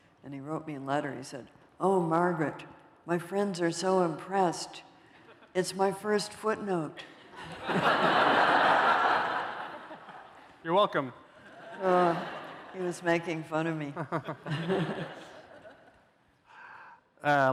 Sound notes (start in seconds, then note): 7.0 laughter